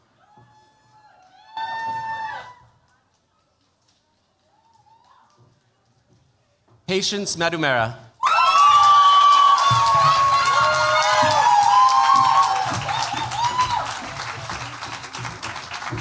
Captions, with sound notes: Patience Madumera. [CHEERS, APPLAUSE]